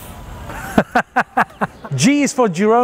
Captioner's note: laughing